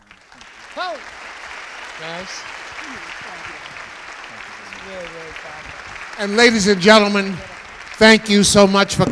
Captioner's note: applause